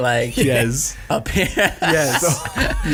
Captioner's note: laughing